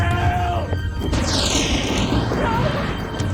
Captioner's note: thunder crashing